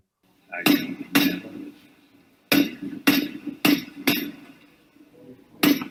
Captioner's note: PUBG ingame gunshots